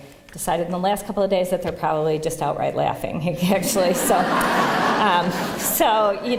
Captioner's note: laughter